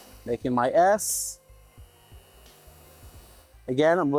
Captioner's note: machine whirring